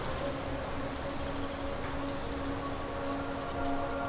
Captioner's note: distant birds, wind